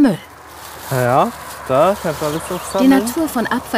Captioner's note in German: Leise Gesprächsfetzen